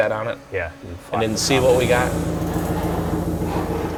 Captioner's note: tools grinding and clunking